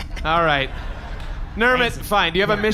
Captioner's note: chuckling